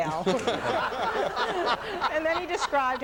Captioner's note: audience laughs